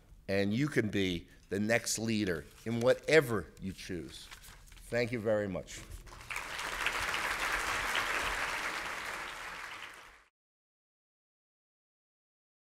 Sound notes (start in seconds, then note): 6.1 audience applauds